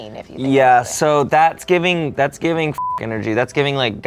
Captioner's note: beep